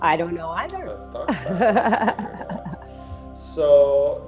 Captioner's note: laughs